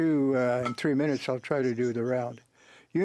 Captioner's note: speaking French